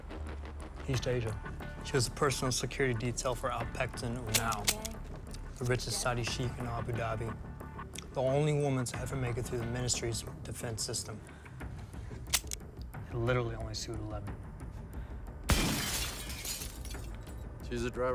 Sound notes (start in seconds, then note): 12.2 gun clicks; 15.5 glass shattering